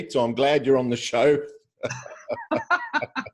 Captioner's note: laughs